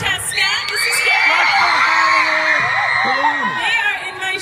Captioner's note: audience cheers